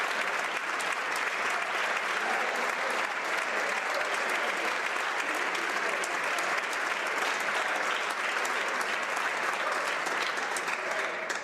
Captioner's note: applause